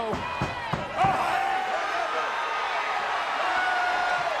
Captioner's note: crowd cheering